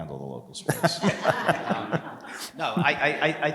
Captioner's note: laugh